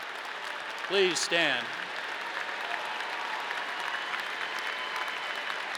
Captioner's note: audience clapping; audience cheering